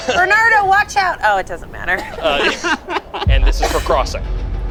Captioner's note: group laughs; group laughs